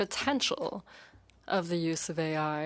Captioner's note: speaking in French